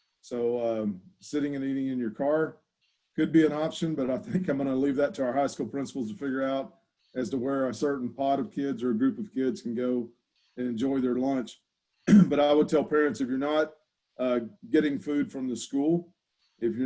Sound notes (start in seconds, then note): 12.0 clears throat